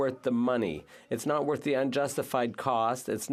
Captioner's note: speaking French